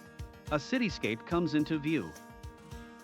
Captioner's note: upbeat music; voiceover